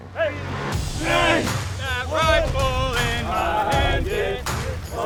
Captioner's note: cadets chanting